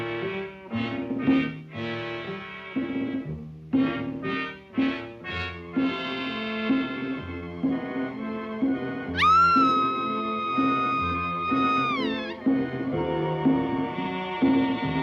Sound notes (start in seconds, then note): 9.1 screaming